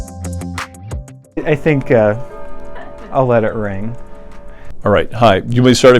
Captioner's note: clock chiming